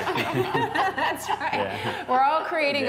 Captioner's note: laughter